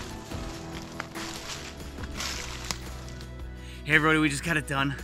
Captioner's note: leaves crunching